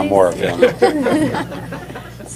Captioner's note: laughter